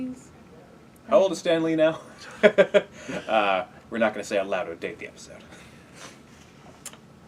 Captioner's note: laugh